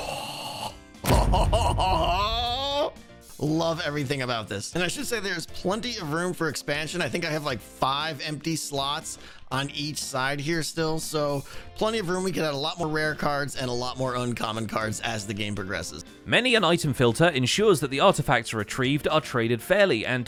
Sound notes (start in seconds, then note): 0.0 dramatic booms in sequence; 1.2 excited noises